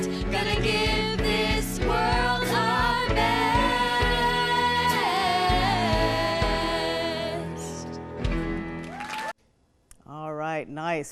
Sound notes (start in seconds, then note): 8.6 audience applauding